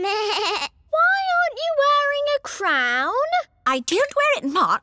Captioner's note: bleats